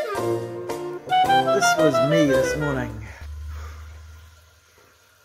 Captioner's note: sighs